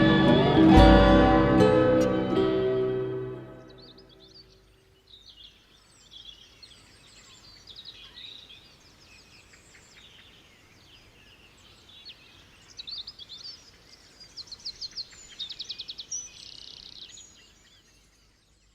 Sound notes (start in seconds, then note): 4.0 birds chirping